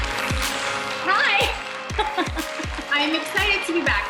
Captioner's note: everyone applauding; laughing